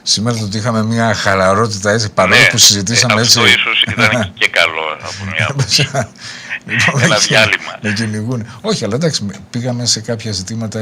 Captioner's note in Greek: γέλια